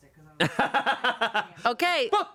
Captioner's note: laughing